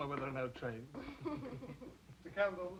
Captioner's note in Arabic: كلاهما يضحك